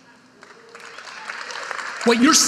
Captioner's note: audience applauding